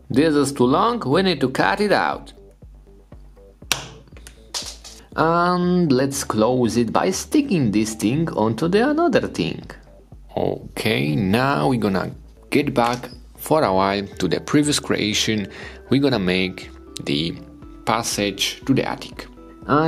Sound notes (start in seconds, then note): 3.7 blade snaps clay; 3.7 clay lands